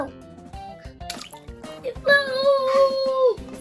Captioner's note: water splashes